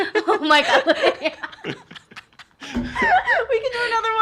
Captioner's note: laughs